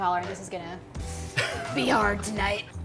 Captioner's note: laughs